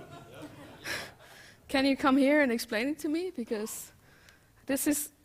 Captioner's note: laughter